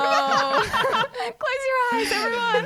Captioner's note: laughing together